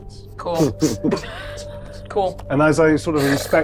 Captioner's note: chuckling